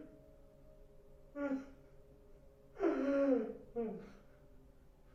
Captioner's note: crying